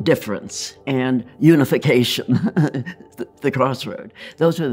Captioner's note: chuckles